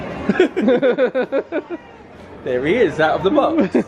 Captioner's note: pair laughs